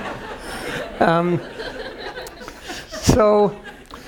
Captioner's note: laugh